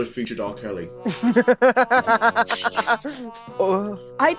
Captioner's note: laughter